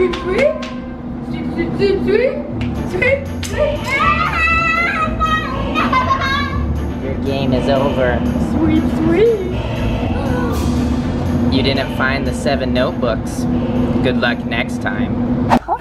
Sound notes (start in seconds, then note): 3.3 screaming